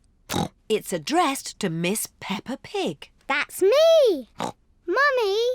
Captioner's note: snorts